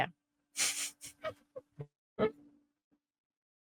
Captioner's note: giggles